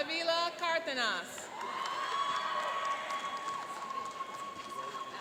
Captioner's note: cheering and applauding